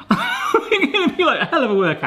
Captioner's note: laughing